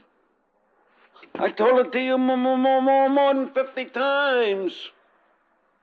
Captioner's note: stuttering